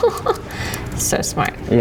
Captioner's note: laughing